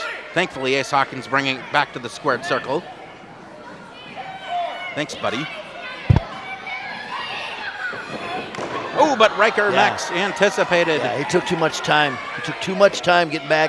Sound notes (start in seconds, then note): 5.9 crowd shouts